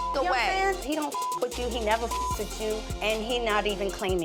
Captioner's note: beep